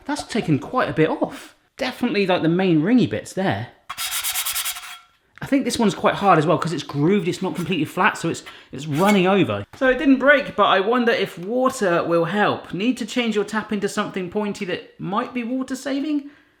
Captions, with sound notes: That's taken quite a bit off. Definitely got the main ring-y bits there. (scrubbing) I think this one's quite hard as well because it's grooved it's not completely flat so it's running over. So it didn't break, but I wonder if water will help. Need to change your tap into something pointy that might be water saving?